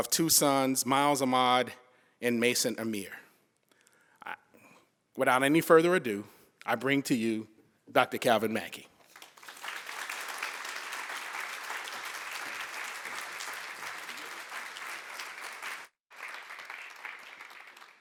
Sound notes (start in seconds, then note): 3.4 applause